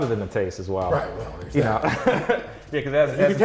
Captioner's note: laughs